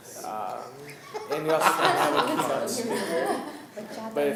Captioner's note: laughing